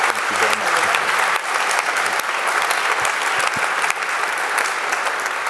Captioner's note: audience applauding